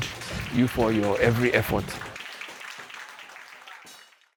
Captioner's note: people clapping